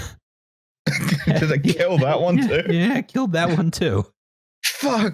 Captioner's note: laughs